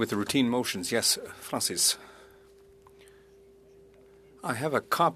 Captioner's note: speaking French